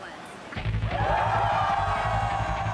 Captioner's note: crowd cheering